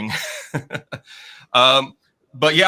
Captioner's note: laughing